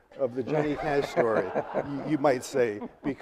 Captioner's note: audience laughing